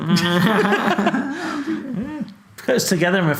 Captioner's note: laughing